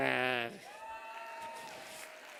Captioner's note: cheers